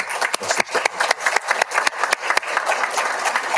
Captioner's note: all applauding